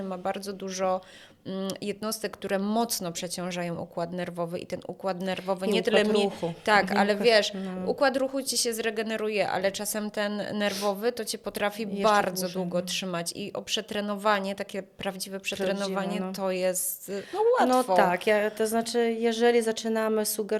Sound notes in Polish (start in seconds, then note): 11.1 parsknięcie